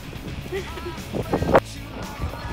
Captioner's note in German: lacht